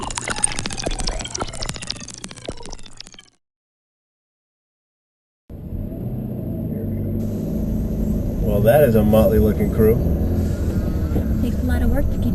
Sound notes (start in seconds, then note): 0.1 chirping fades; 5.5 engine